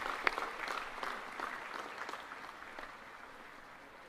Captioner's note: applause